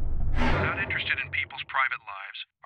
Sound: metallic sound

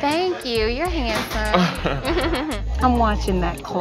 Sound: both laugh

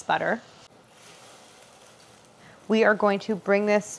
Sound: apples sizzling

